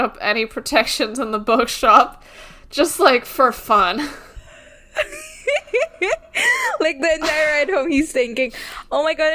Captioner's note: laughing